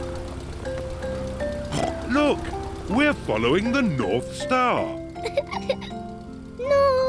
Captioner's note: snorts; giggles